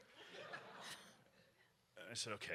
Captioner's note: audience laughs